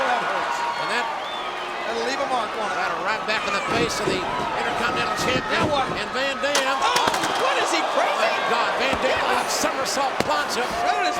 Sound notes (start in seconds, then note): 1.1 crowd cheering; 6.3 steel rattling